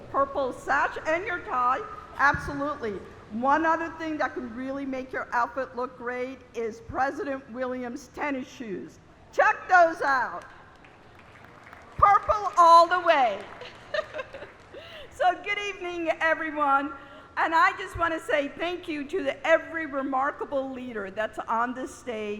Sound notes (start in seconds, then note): 13.5 laughter